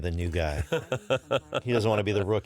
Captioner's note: fillion laughs